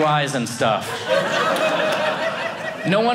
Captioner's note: audience laughing